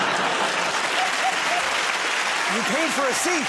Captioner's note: laughter; applause